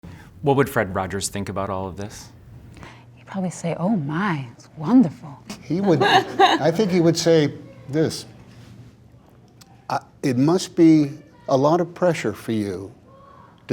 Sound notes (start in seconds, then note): 5.8 laughter